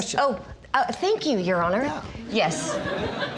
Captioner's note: sarcastically